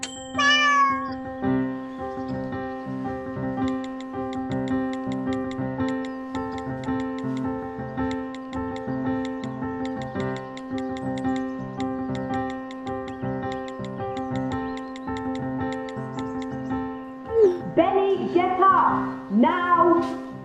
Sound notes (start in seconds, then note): 0.2 music continues playing; 4.3 texting sound effect playing; 17.2 message sent sound effect playing